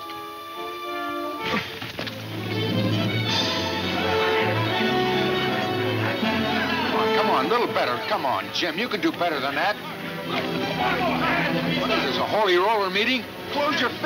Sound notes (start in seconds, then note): 0.1 dramatic music; 3.6 men shouting; 13.9 dramatic music